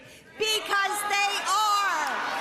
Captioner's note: cheering and applause